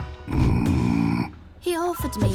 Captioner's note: growling